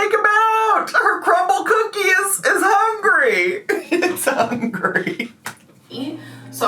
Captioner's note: laughs